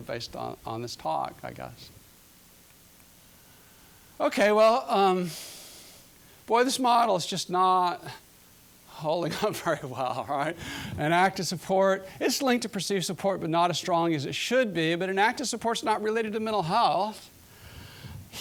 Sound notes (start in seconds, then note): 9.5 laughing